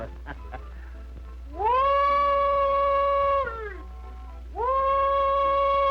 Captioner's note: animal calling